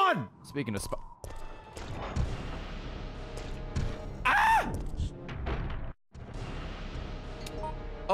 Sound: screams

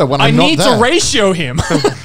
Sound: chuckling

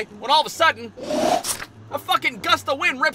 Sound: whooosh

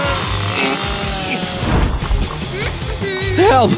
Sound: grunting; evil giggling

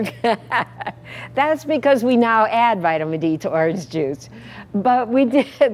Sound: laugh

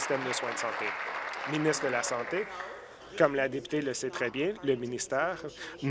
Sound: applause

